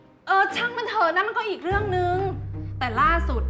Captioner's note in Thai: none